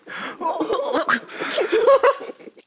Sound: in pain

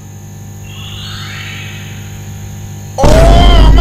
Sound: refrigerator buzzing

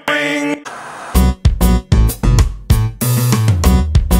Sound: static hissing

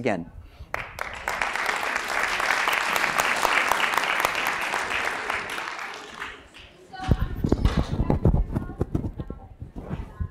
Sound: applause

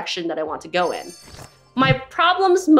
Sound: jingling sound

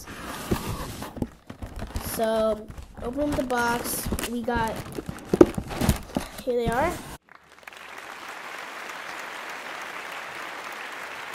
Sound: clapping

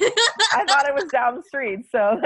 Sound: laughter

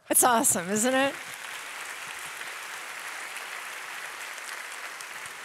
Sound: audience applauding

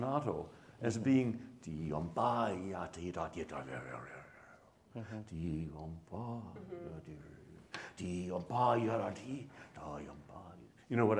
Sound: humming

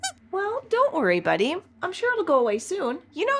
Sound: squeaks squeaking

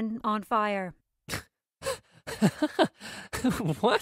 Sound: laughs

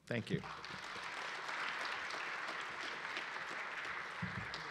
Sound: audience applauding

